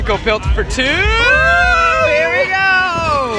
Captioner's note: yelling